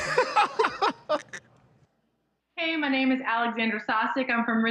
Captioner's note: laughter